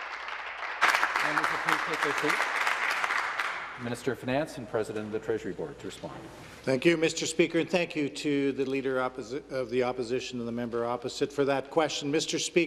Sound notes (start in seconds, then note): 0.0 some Applause